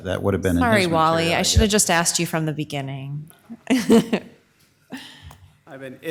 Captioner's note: laughs